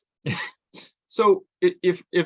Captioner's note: chuckles